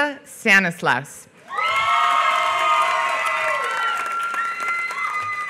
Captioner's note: applause